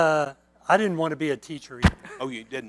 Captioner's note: mic scratch; laughter